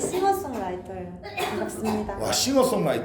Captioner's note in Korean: 콜록!